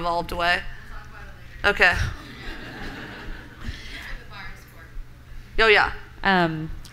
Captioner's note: laughter and chatter